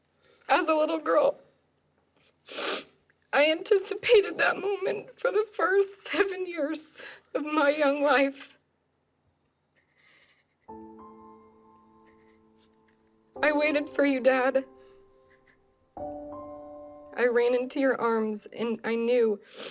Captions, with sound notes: As a little girl... [sniffles] ...I anticipated that moment for the first seven years of my young life. [somber music playing] I waited for you, Dad. I ran into your arms and I knew,